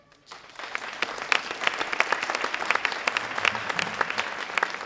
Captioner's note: audience applauding